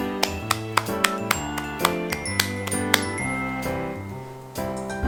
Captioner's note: applauseeeeeeee